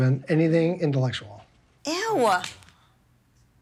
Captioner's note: slaps